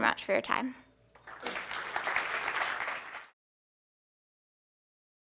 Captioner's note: applause